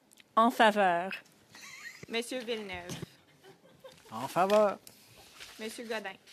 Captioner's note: speaking French